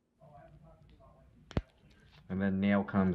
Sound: nail cracking

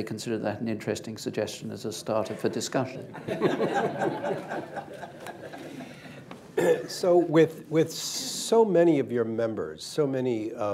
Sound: laughter

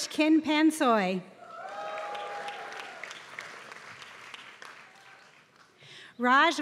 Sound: applause

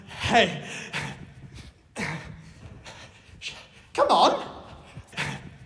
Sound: ragged breaths; ragged breaths; ragged breaths, Amanda claps

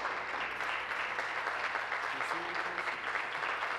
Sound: applause

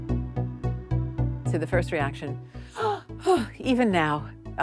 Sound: shocked gasps

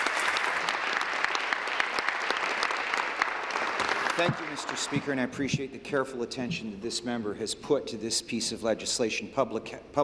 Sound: applause

